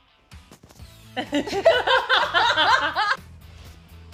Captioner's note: laughter